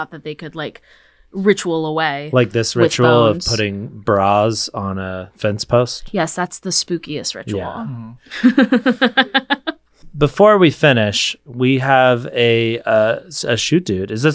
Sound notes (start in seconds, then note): 8.3 laughing